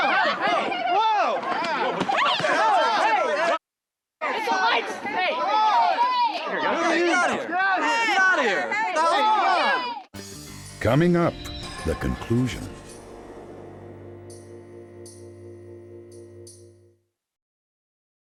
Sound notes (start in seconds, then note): 3.2 shouting